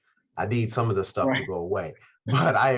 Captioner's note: laughs